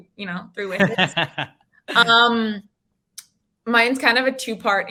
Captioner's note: laughing